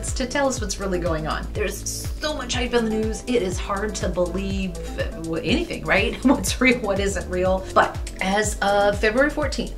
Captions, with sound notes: to tell us what's really going on. There's so much hype in the news. It is hard to believe anything right? (laugh) What's real what isn't real? But as of February 14th,